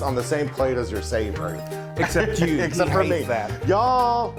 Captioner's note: laughs